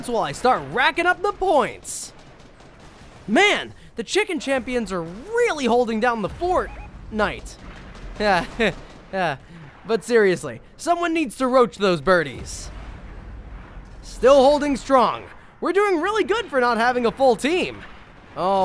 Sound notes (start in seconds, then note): 8.2 laughs